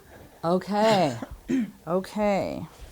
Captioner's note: coughing